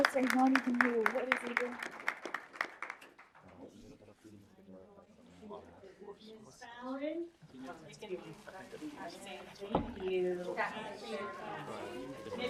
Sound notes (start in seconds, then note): 0.1 student chatters; 3.1 people chatter; 10.9 people chatter